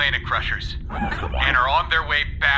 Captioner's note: half-muttered, annoyed